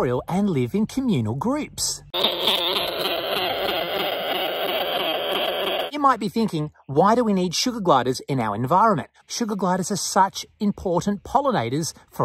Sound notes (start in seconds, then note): 2.1 sugar gliders vocalising